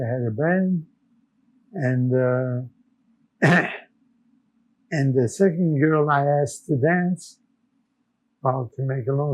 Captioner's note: clears throat